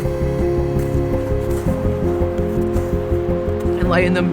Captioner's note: snow crunching; compelling music